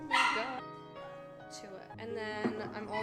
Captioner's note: dog Barking